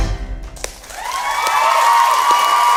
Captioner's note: audience clapping and cheering